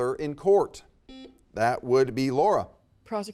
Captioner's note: buzzer beeps